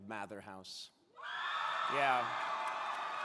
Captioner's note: crowd cheering